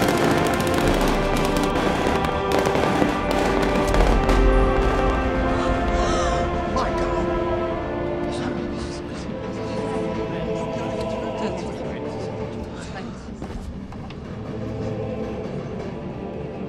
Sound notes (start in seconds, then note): 5.4 all gasping